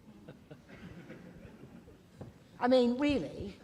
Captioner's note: laughing